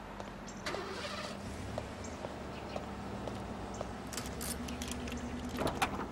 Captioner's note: vehicle door shuts, engine starts